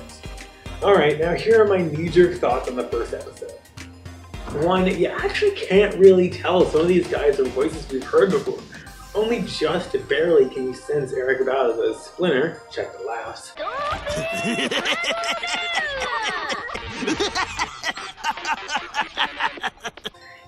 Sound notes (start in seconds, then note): 13.7 check the laughs